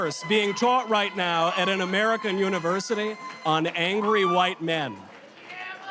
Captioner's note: audience chatter